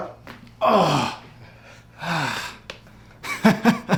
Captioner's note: man groans